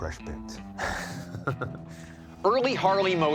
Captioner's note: chuckles